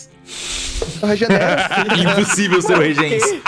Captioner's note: laughs